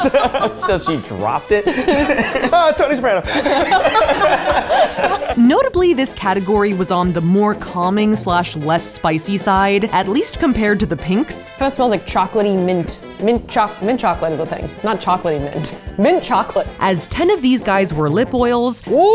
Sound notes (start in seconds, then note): 2.0 laugh; 3.7 both laugh